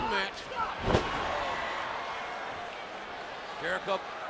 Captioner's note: body slamming